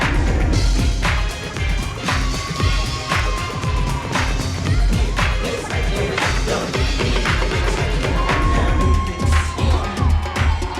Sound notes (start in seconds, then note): 3.1 audience cheering